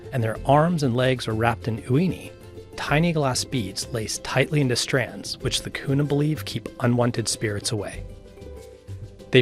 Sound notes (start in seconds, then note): 1.8 speaking in foreign language